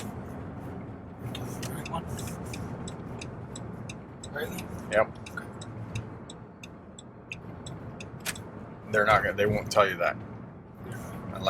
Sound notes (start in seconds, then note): 1.3 turn signal blinking